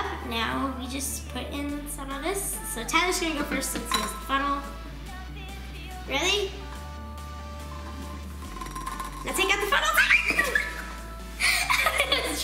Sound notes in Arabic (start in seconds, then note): 8.4 كلانكينج قمع; 9.8 الصرخات; 11.5 يضحك